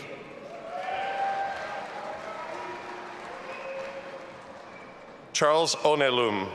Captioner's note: audience applauding and cheering